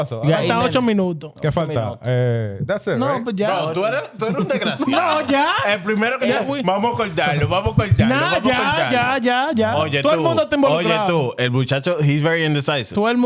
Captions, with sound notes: (Speaking Spanish) No, no, no, no, no, no, no, no, no, no, no. No, no, no, no, no, no, no, no, no. (Speaking Spanish) He's very indecisive.